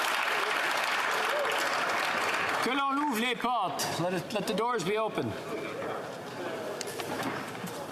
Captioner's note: applause